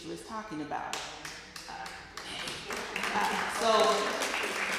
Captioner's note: applause